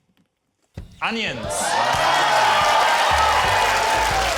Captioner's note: cheering, applause